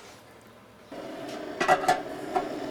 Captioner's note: hissing sound